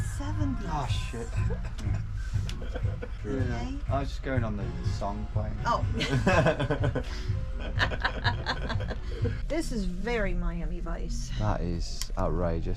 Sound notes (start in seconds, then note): 3.0 laughing; 7.4 laughing